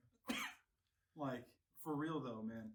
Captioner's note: coughing